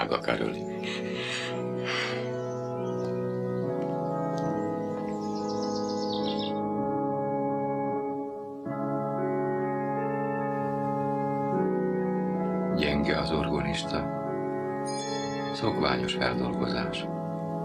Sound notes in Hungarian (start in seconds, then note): 14.8 csengetés